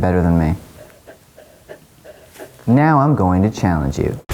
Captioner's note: panting